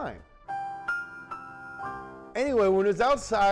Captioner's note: chiming sound